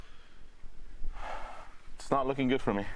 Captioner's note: sighs